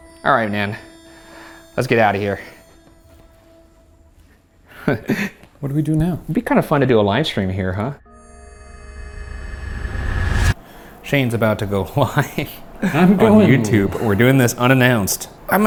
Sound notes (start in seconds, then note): 4.8 laughing; 7.9 deep ominous music swelling; 12.8 laughing